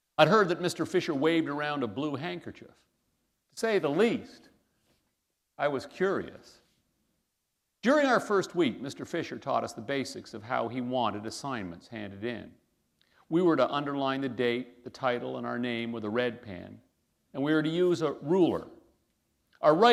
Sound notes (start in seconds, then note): none